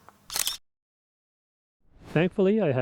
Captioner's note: camera shutter clicks